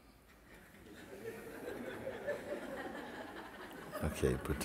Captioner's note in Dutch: gelach